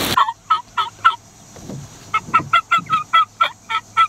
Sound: turkey call

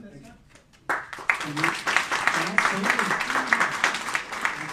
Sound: applauding

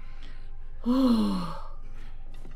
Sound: sigh

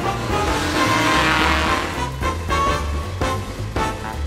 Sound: engine revving

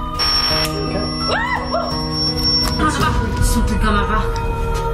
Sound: screams

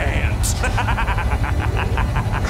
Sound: laughing

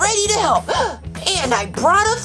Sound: gasps

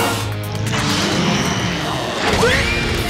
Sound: roaring

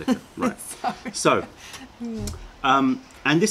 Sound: laughter

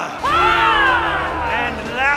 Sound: cheering

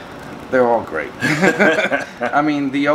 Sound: laughing

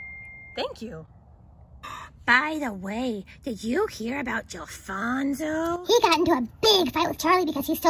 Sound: ding

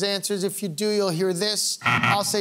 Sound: buzzer beeping

